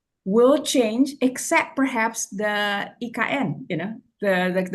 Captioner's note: foreign language